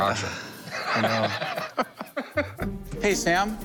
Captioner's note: sighs